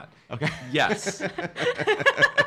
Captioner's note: laughing